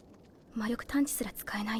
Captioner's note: Korean